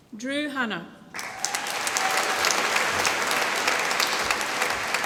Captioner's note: applause